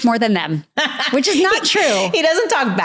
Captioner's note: laughs